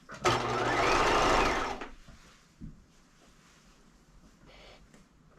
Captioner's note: sewing machine roaring